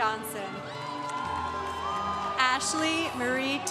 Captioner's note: congregation cheering